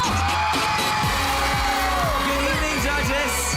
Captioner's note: audience cheering